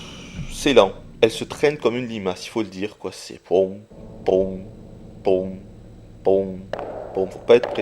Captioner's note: imitates her footsteps noise